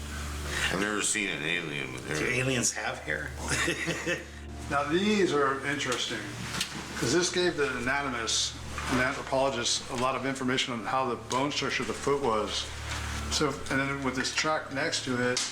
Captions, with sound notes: - I've never seen an alien with hair. - So aliens have hair? (laughs) - Now these are interesting 'cause this gave the anonymous and anthropologists a lot of information on how the bone search of the foot was. So, and then with this track next to it,